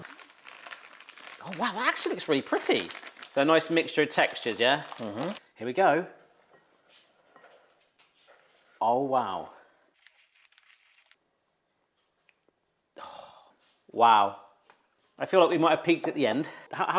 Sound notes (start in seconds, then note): 0.0 bag crinkles; 6.8 spatula thudding; 10.0 food combo crunching